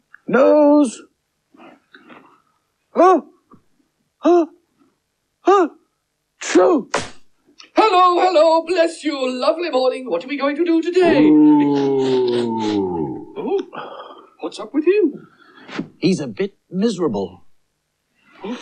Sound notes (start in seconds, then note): 2.8 magician Sneezes Loudly; 11.0 cauldron Groans Again